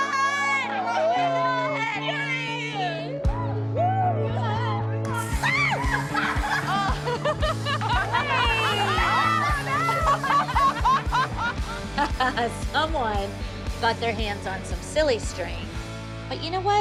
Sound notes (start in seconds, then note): 5.2 screams; 5.5 laughter; 11.3 laughs